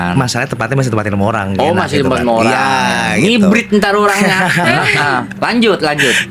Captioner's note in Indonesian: tertawa